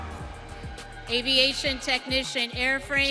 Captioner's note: audience cheering